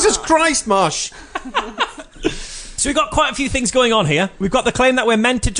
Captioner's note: laughs